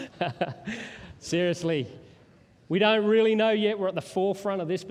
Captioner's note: laughter